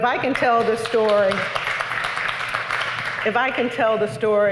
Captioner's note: applause